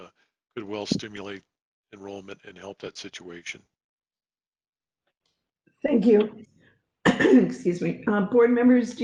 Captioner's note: cough